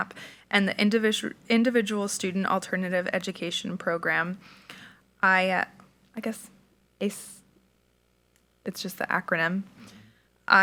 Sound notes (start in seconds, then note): none